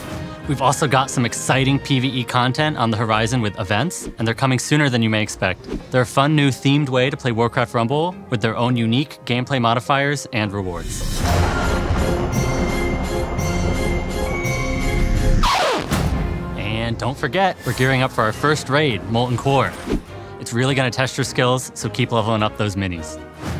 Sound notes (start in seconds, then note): 11.1 thunder crashes; 12.4 jaunty music; 15.4 record scratches